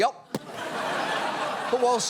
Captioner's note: audience laughs